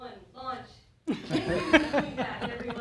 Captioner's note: laughter